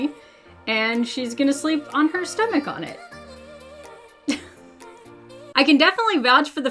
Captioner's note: laughs